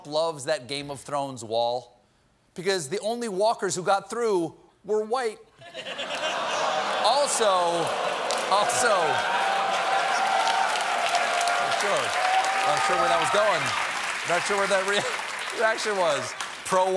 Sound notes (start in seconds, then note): 7.7 audience reacts; 7.7 laughter; 12.6 applause